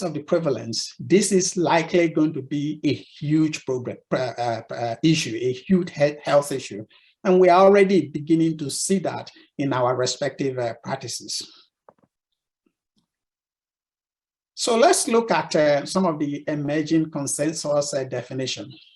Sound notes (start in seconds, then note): 12.0 silence